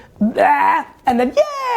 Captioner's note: puking sound